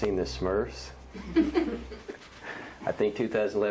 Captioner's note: laughs